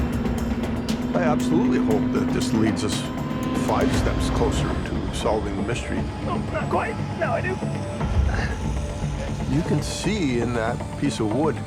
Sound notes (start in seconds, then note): 5.7 struggling, grunting